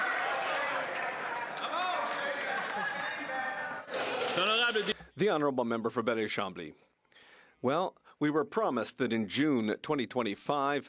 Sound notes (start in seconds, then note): 3.2 speaking French